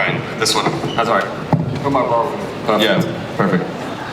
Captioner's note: both mumbling